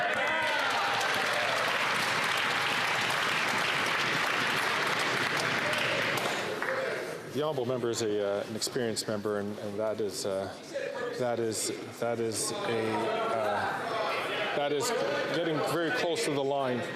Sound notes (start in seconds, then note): 6.5 some Applause